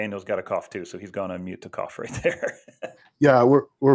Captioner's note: laughing